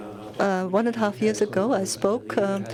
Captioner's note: voiceover